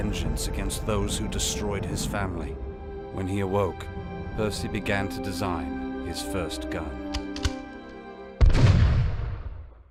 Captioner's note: gunshot